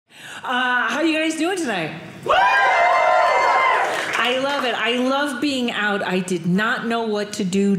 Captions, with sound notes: How are you guys doing tonight? (audience cheering) I love it. I love being out. I did not know what to do